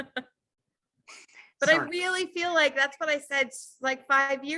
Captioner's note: laughs